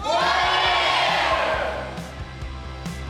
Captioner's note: crowd